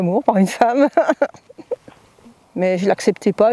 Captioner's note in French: Rires